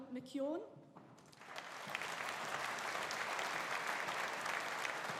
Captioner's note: audience applauding